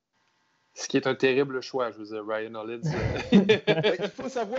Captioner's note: laugh